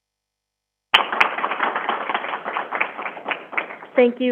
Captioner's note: crowd applauding